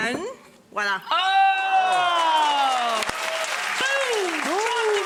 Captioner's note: audience applauding